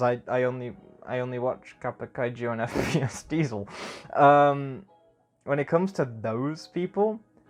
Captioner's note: small laugh